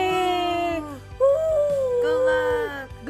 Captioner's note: whooping